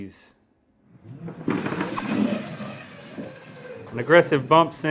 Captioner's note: puck sliding